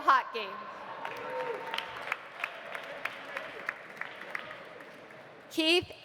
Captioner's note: audience cheering; audience applauding